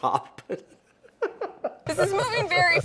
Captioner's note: laughing